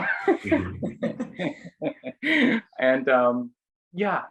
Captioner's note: group laughing